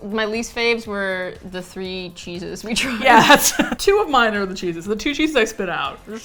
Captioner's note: laughs